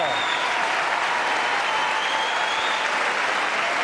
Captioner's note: cheers and applause